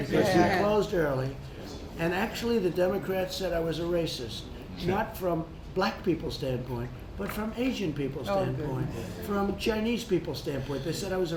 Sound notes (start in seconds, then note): none